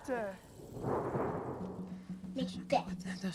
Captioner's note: thunderclap